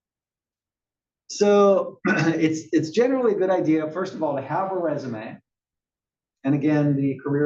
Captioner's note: cough